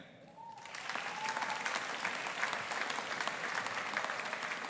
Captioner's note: audience applauding